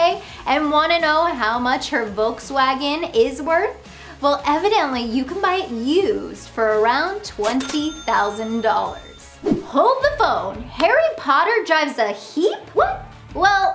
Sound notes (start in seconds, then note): 7.4 cash register dings; 9.4 graphics whoosh; 11.4 hands tapping